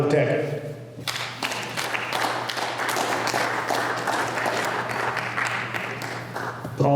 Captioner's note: applause